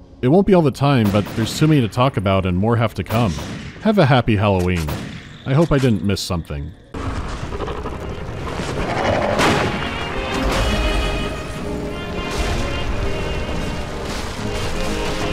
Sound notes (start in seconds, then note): 9.3 pow